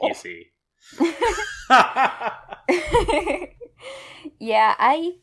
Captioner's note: laugh